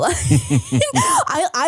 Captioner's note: laughing